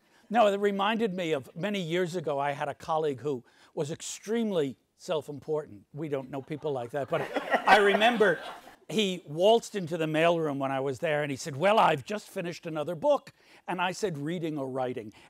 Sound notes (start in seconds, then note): 6.3 audience laughs